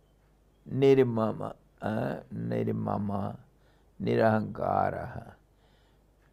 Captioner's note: sanskrit